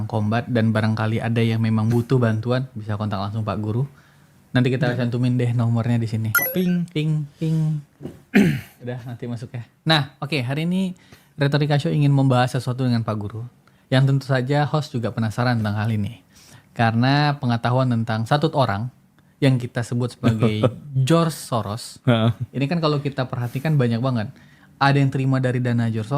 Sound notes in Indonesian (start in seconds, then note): 8.3 berdehem